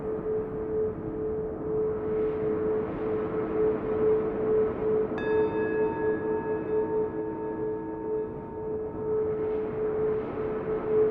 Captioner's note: singing bowl echos and chimes ring more frequently